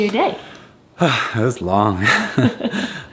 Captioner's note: sighs